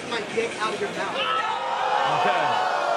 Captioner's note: all oohing